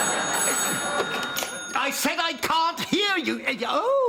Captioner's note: phone rings